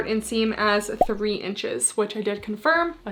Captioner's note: graphics beeping